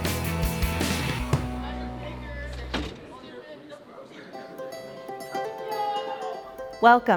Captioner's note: student chatter